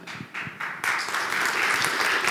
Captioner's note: clapping